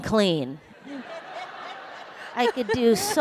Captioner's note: laughter